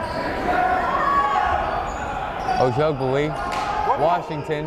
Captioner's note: yelling